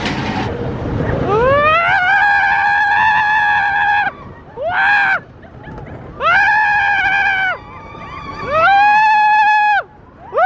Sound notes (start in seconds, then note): 1.2 screams